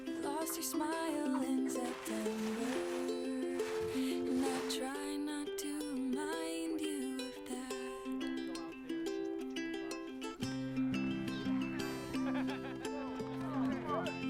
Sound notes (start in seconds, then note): 11.2 risas